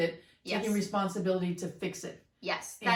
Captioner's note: whispers